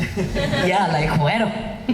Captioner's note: laughing